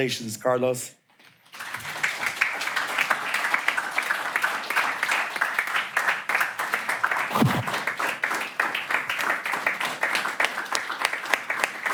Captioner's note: applause